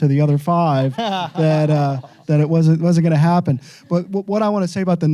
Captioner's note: laughs